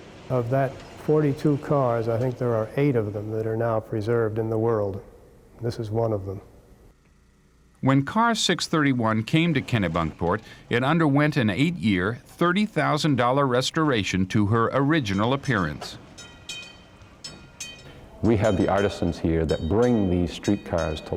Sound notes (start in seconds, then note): 14.9 bell ringing